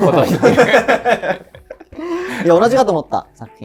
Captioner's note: laughing